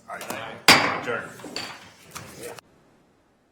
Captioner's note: gavel bangs